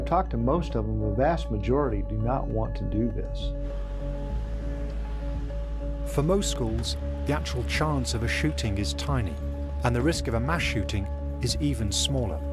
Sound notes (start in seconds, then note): 3.2 traffic